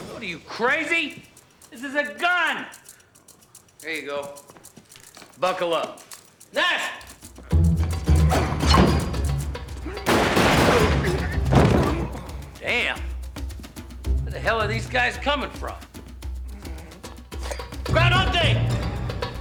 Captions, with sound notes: What, are you, crazy? This is a gun. Here you go. Buckle up. Nash! (grunting) Damn! Where the hell are these guys coming from? (sighs) Ground Hog Day!